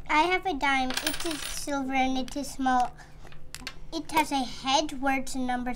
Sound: none

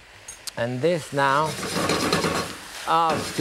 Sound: pan scraping

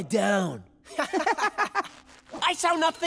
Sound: laughing

